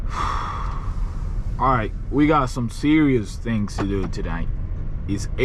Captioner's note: sighs